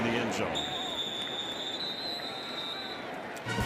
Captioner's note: whistle